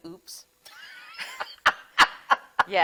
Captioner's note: instructor laughing